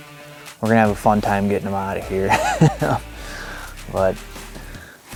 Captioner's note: laughs